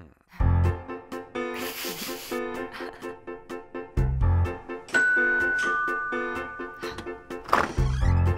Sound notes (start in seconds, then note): 4.9 doorbell rings